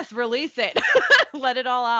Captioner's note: laughing